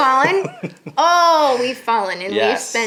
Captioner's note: laughing